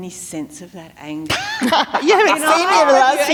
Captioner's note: laughter